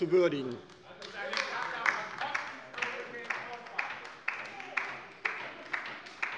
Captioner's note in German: Beifall bei der LINKEN